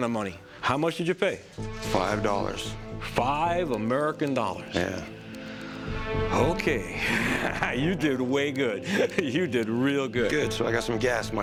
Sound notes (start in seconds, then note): 6.9 chuckles